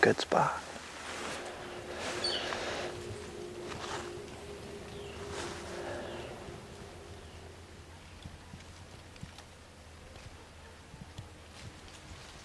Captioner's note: birds singing, leaves rustling in the wind